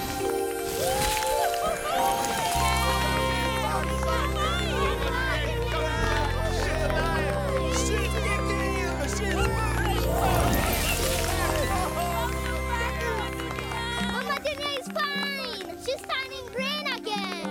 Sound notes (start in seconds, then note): 0.1 all cheering; 3.6 excited shouting; 7.4 excited chatter